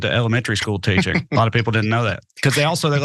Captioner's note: laugh